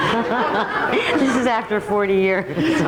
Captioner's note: audience laughs